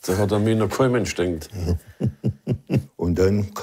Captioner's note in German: lacht leise